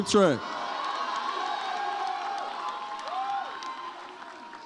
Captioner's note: audience cheers